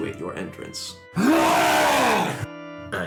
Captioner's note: long wookie roar